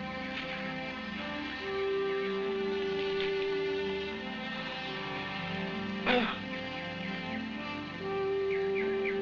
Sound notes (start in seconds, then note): 6.0 grunting